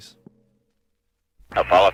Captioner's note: radio transmission